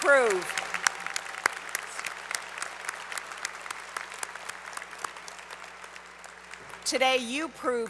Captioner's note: applause